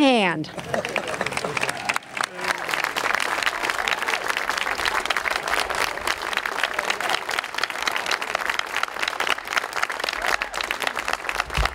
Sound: clapping

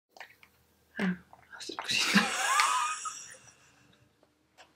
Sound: laughing

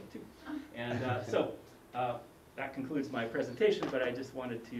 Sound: laugh

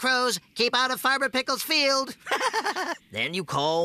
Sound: giggling

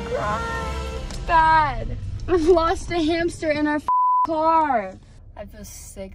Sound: beep

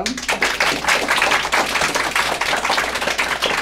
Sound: applause

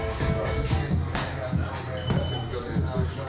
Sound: thumping

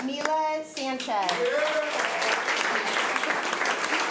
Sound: applause

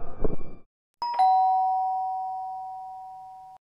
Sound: doorbell ringing

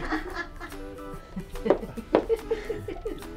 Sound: laughing; footsteps stomp; laughing

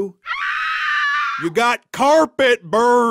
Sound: screams

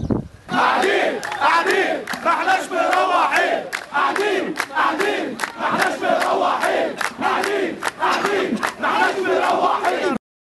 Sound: chants

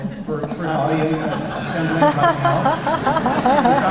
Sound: laughter

